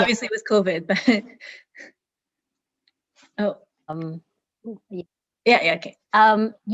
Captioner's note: connection issues